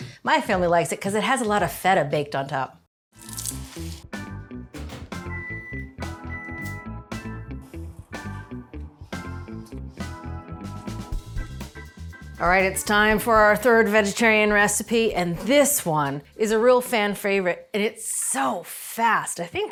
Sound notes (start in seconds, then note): 3.4 bright music; 5.1 microwave beeps